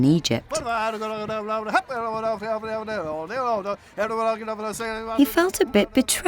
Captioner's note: auctioneer babbling